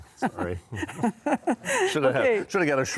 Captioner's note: laughing